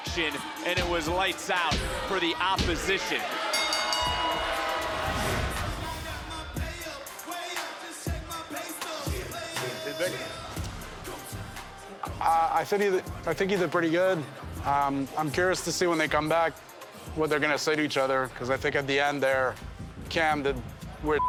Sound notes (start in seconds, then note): 3.4 bell rings